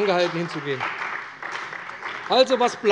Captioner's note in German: Beifall bei der CDU und dem BÜNDNIS 90/DIE GRÜNEN